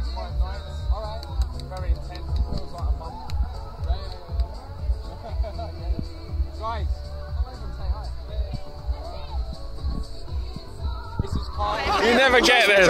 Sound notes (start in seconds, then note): 5.1 both laugh